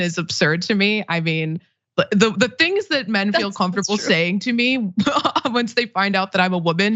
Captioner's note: laugh